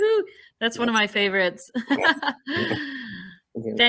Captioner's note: laughs